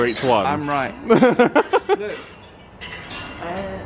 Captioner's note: laughs